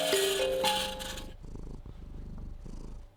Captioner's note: cat purrs